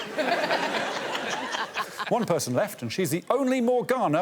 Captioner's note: all laughing